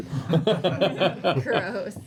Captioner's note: laughter